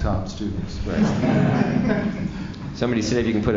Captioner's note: laughters